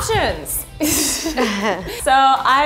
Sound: laughing

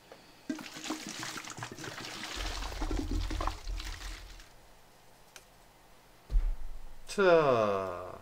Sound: sound of water gurgling

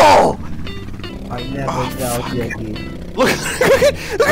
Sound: normal voice

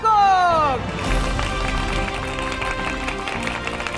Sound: applause

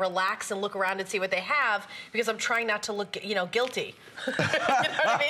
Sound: laughter

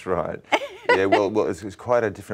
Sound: laughs

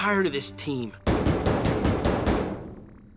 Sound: knocking

